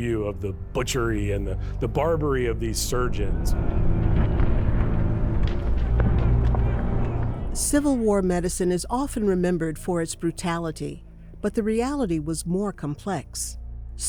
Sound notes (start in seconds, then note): 3.7 dramatic music; 3.7 soldiers chattering